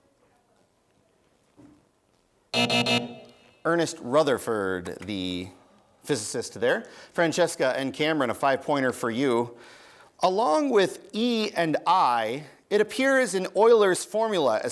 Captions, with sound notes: (buzzing) Earnest Rutherford, the physicist there. Francesca and Cameron a five-pointer for you. Along with E and I, it appears in Euler's formula